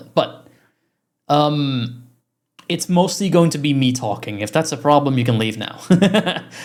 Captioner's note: chuckkes